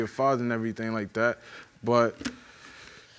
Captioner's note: sighs